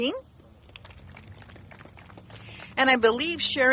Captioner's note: clapping